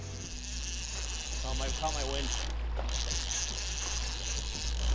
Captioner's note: fishing pole reeling